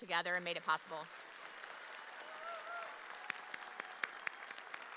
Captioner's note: audience applauds